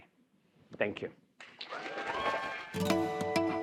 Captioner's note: applause